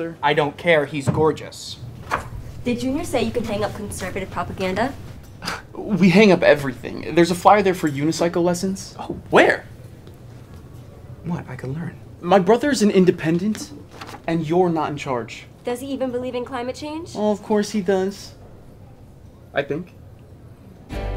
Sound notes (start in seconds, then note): 5.2 scoffs; 20.9 soft rock music